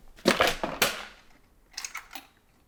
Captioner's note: boxes thudding; metal clinking